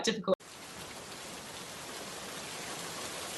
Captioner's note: rain sound effect